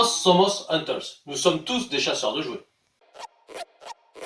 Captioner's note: speaking in French